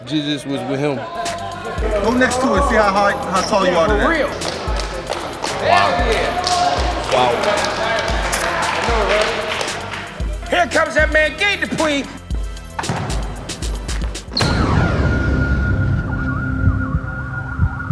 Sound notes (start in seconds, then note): 4.9 fans applauding; 12.6 upbeat music; 15.0 dramatic music